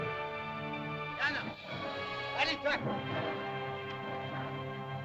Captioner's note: dramatic music; Tumak speaks in caveman language; dramatic music